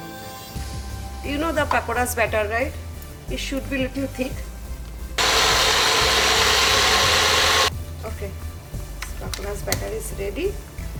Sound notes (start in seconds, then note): 5.2 blender grinding